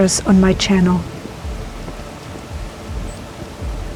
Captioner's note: sound of waves and quiet music